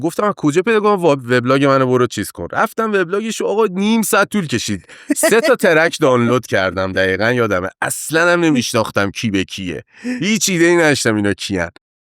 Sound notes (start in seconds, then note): 7.4 laughs